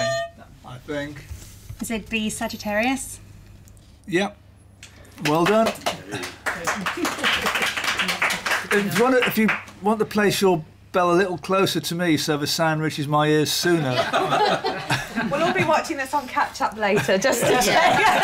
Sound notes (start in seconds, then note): 5.2 applause; 13.8 laughter